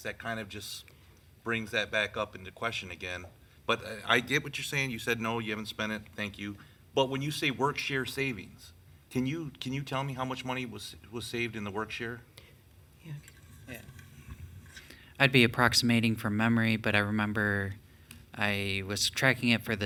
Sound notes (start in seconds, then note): 13.1 speaking distantly